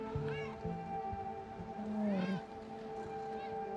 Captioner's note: meowing